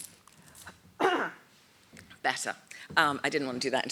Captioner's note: coughs